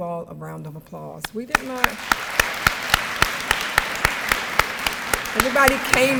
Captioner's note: audience applause